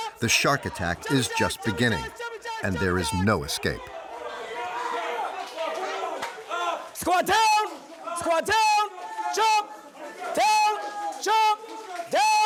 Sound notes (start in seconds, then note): 5.8 cadres yelling